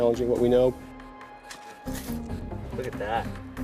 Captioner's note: shovel digging